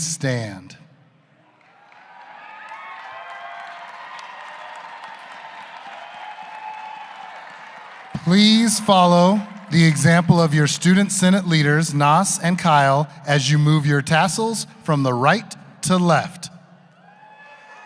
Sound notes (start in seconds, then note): 3.8 cheers and applause